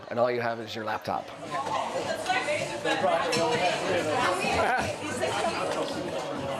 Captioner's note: wait staff chattering